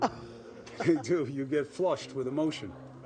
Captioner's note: chuckles